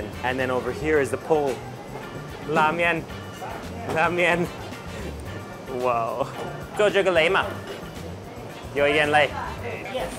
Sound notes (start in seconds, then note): 2.5 speaks in Chinese; 6.9 speaks in Chinese